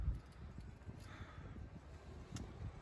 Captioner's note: none